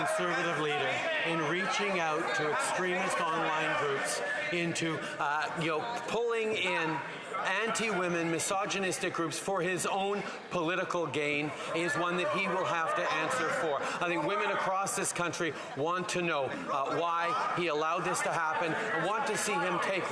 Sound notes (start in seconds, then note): 1.6 yelling